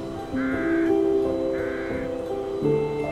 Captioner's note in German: Staubsaugerlärm